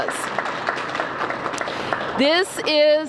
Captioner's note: applause